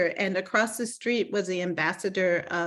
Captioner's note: none